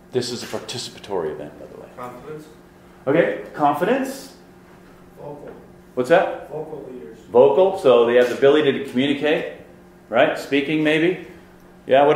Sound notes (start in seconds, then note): 2.1 voiceover